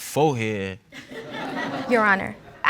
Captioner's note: audience laughs